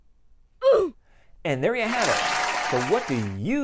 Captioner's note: applause